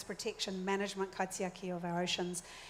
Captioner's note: speaks in foreign language